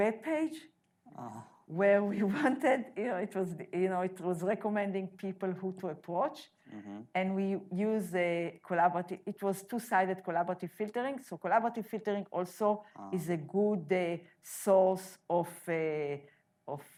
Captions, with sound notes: (groaning) where we wanted, it was recommending people who to approach, and we used the collaborative, it was two-side collaborative filtering, so collaborative filtering also, is a good source of explanation.